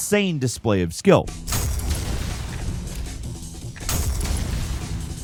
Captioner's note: explosions blasting